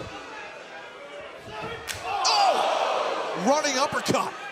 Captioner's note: crowd chatter